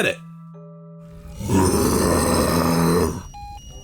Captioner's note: roars